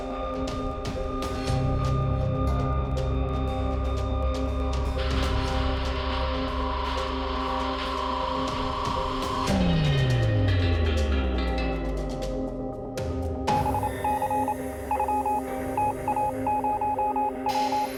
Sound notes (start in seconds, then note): 13.0 telegraph beeping